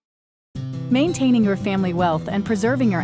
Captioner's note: voiceover